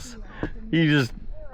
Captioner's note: laughing